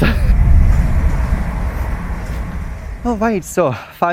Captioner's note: fast train passing station